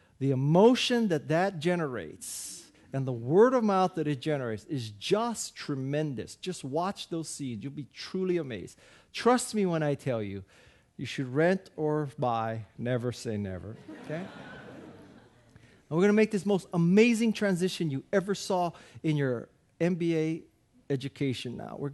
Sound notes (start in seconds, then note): 13.8 audience laughing